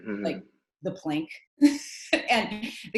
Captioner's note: laughing